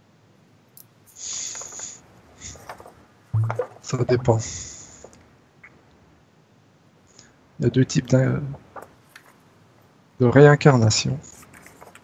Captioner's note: breath